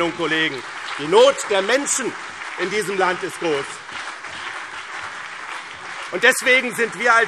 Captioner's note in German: Beifall BÜNDNIS 90/DIE GRÜNEN und CDU